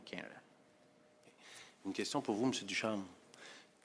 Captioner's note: speaking French